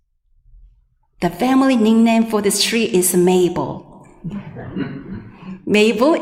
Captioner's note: audience laughing